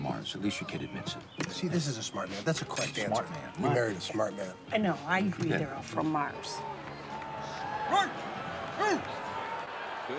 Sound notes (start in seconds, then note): 6.3 crowd cheering